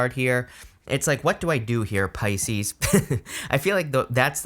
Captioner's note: chuckles